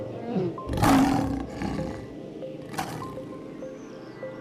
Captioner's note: roaring